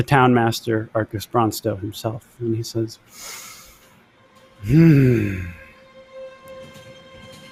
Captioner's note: groans